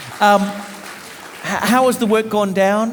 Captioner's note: audience applauding